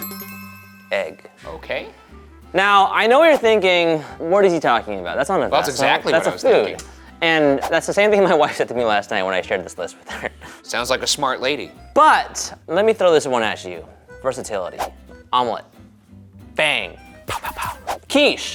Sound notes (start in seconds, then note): 0.0 bell chiming; 14.8 graphic whooshing